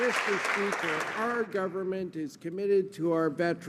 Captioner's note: some Applause